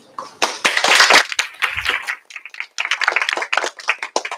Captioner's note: applause